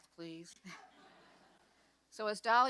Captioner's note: audience laughs